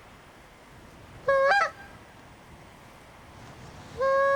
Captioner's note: bird call sounding